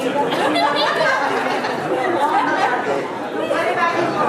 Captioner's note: audience laughing; people chattering